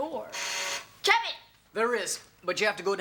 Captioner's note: Kevin hits the buzzer